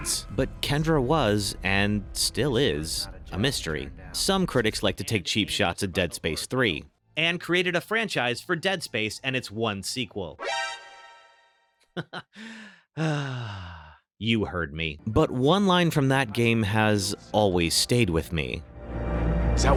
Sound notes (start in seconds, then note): 12.2 sighs